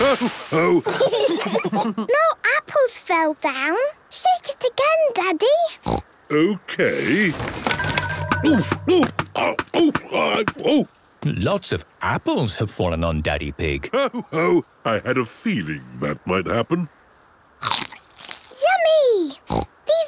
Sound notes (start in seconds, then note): 0.6 laughter; 6.0 snorting; 17.6 crunch!; 19.1 snorting